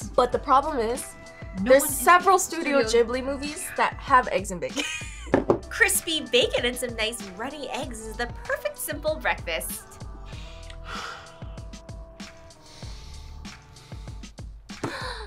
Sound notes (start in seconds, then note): 10.2 sighs; 12.4 upbeat music; 14.8 gasps